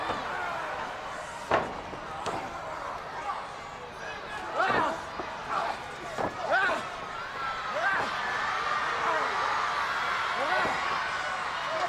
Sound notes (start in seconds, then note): 2.3 wrestlers grunting